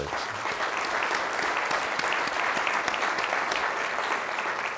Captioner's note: crowd applauds